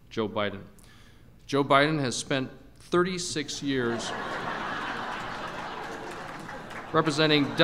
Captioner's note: laughter